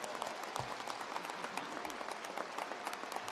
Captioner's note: applause